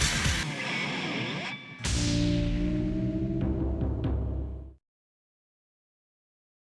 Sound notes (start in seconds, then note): 1.8 logo swooshing; 1.8 upbeat music